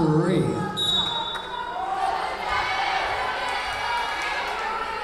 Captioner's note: whistle blowing